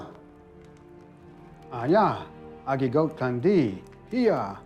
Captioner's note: speaking Cherokee